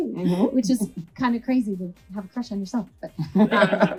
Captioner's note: laughs